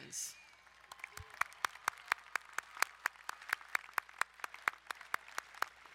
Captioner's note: crowd cheering and applauding